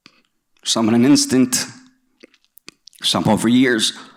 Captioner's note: voice trembling